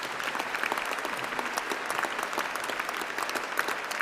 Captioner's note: applause